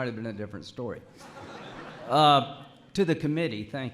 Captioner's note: laughter